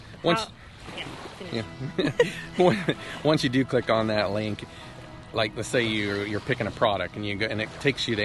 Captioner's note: laughing while interupting